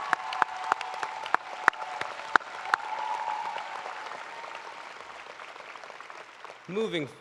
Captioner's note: cheers and applause